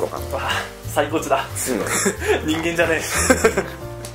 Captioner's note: laughs